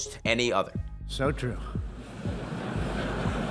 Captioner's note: audience laughing